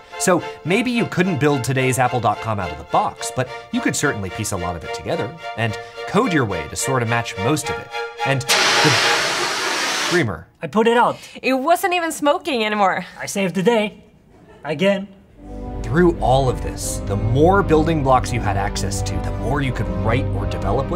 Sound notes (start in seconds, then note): 8.4 fire extinguisher discharging